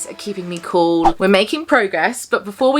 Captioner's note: audio whooshing